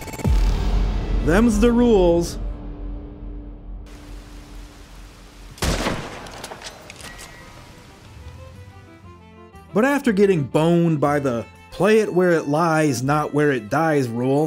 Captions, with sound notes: Them's the rules [Gunshot] But after getting boned by the "play it where it lies, not where it dies" rule,